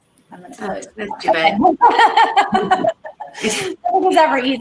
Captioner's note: laughter